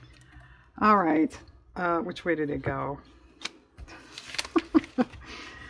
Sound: laughs

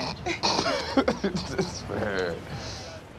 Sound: both laughing

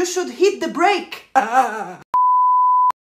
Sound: starts crying; TV Color Bars Sound Effect

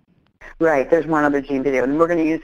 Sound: voiceover

